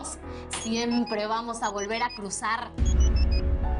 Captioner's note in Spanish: Celular sonando